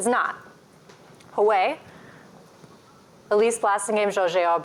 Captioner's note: non-english speech